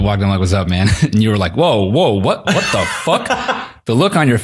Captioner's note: laughs